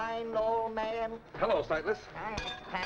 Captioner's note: pat